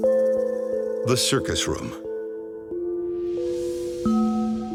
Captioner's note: voiceover